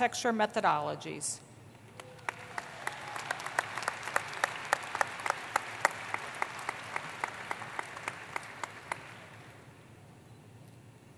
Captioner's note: applause